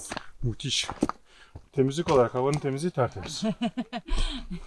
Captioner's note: both laugh